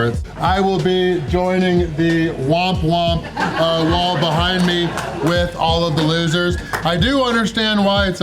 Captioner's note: crowd laughter